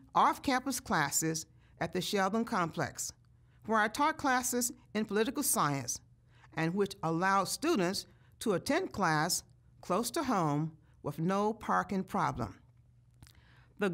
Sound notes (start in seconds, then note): none